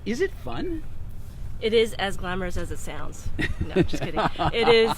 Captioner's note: laughs